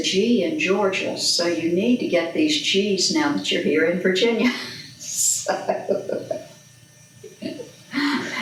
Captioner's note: laughs